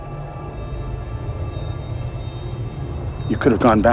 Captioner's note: buzzing